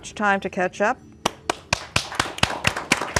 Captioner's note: applause